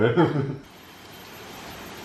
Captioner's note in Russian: смеются; звуки природы